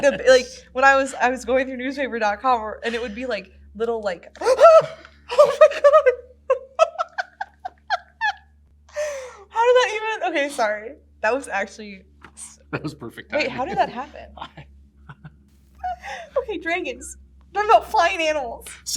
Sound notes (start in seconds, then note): 4.4 gasps; 5.2 laughs